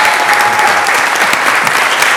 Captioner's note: applause; cheers and applause